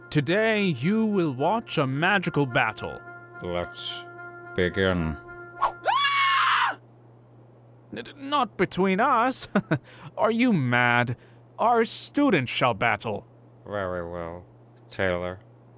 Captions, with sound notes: Today you will watch a magical battle. - Let's begin. (wand whipping) (Gilderoy screeching) - Not between us. Are you mad? Our students shall battle. - Very well. Taylor.